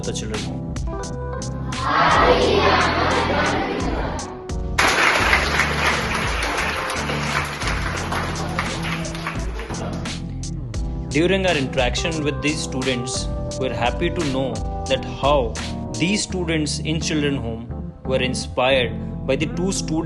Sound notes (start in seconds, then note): 4.8 applause